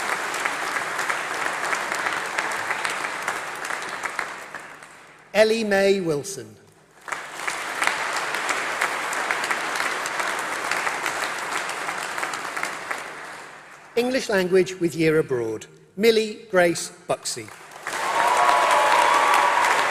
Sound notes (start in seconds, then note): 7.2 applause; 17.3 applause